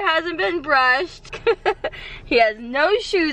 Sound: laughs

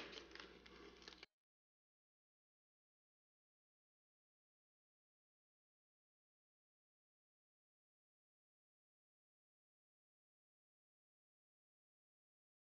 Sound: silence

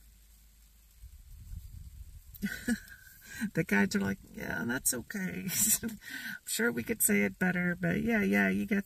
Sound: giggle

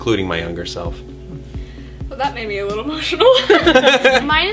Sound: laughter

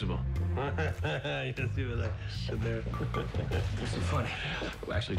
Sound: laughing; chuckles

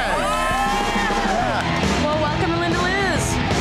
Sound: patrons cheering

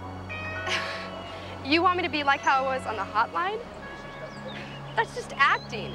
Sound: chuckles

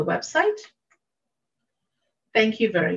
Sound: mouse clicking

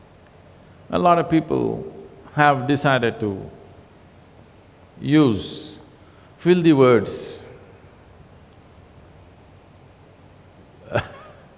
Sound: laughs

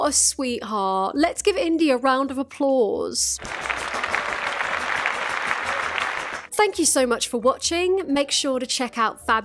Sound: clapping

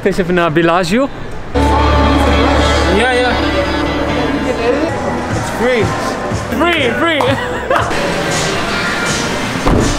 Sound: laughter

